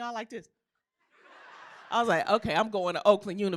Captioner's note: laughter